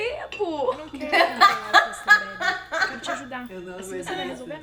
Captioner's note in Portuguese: Risos